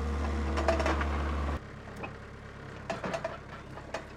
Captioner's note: engine idling